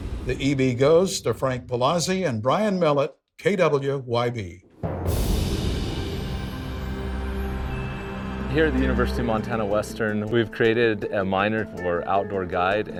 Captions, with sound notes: The EB goes to Frank Palazzi and Brian Mellot, KWYB. (wind whooshing) (soft music) - Here at the University of Montana Western, we've created a minor for outdoor guide